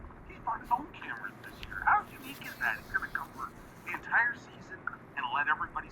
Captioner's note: announcers discussing in the distance